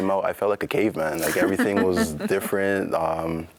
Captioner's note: laughs